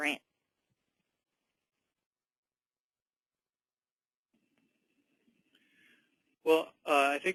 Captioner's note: pause